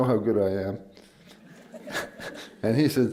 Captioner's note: laughter